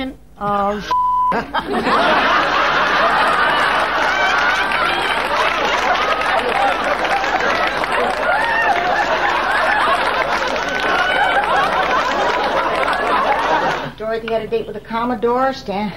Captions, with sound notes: Oh, (beep) (audience laughing) Dorothy had a date with a Commodore, Stan.